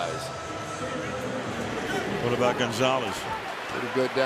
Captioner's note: pa announcement